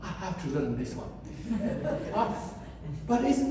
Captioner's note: audience laughs